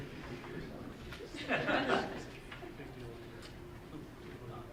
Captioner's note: group chuckling